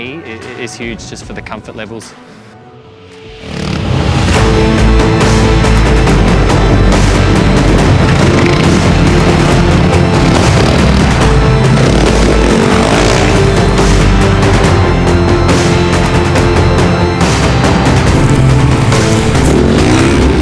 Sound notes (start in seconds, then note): 3.8 upbeat music; 9.0 engine revving